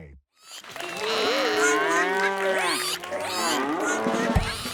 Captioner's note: animal applause